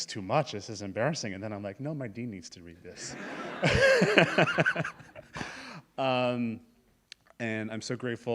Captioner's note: laugh